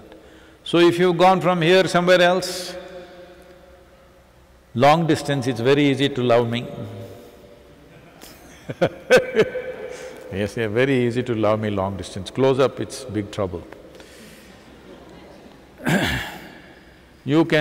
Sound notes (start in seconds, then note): 7.9 laughs